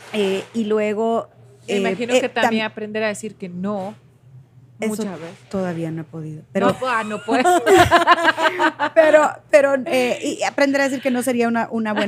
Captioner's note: Risas